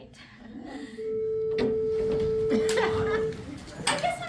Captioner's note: bell rings